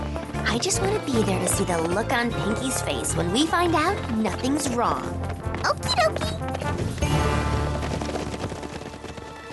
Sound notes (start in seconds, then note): 2.5 hoofbeats depart